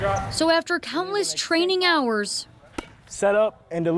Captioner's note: football practice sound